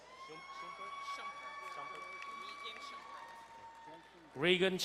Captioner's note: crowd cheering and applauding